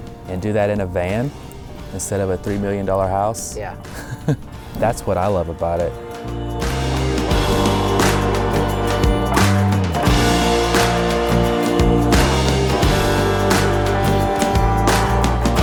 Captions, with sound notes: and do that in a van instead of a $3 million house, (laughs) that's what I love about it. (mellow music)